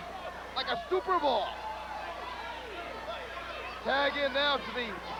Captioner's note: crowd chatter